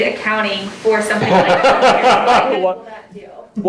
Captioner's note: laughing